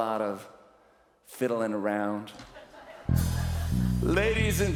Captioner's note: laughter